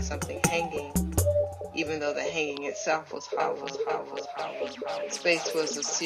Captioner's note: echoes